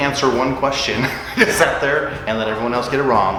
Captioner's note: laughs